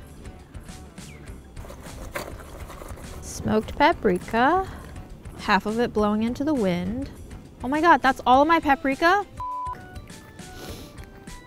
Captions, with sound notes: Smoked paprika. Half of it blowing into the wind. Oh my God, that's all of my paprika? (beep)